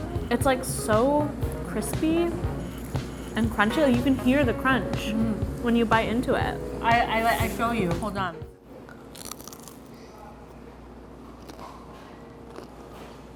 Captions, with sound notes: - It's like so crispy and crunchy, like you can hear the crunch when you bite into it. - I--I'll show you, hold on. (crunches)